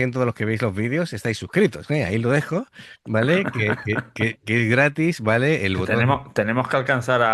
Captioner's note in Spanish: risas